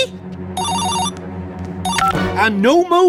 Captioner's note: cell Phone Rings